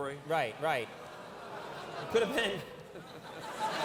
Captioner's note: Conan and audience laughing